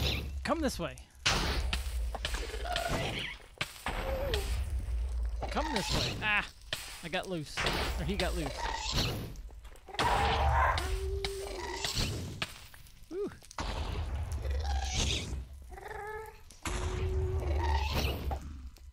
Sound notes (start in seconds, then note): 9.8 ghast screams; 10.0 shrieking and explosions continue